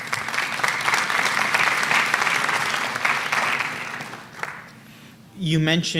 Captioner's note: applause